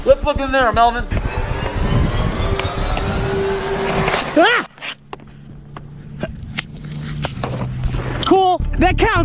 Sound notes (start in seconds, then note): 1.0 tempo rising; 4.4 yelling